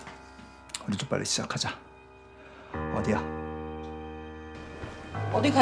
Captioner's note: speaking in Korean